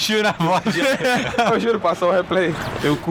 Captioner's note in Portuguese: Caçoando